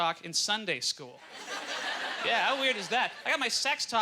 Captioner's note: audience laughter